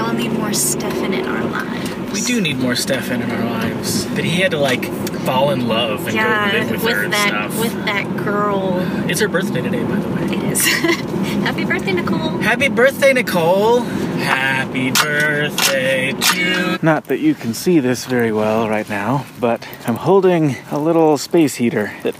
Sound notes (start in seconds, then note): 3.7 mockingly; 10.6 laughing